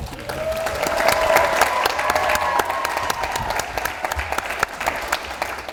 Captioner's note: audience cheers and applauds